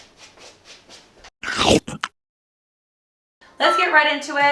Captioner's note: crunching